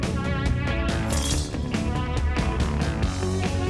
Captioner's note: metallic objects